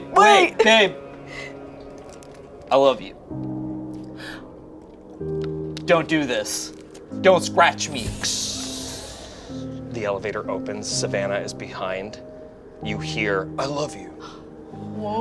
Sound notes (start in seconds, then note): 3.8 gentle music; 7.9 lift door opens